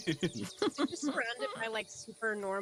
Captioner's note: Cornette laughs; Violette laughs